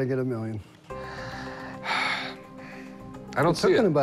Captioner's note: sighs